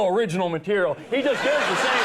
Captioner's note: audience laughing